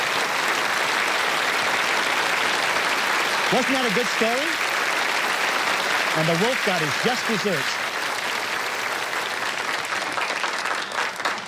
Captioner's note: applause